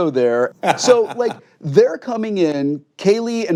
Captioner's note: laughs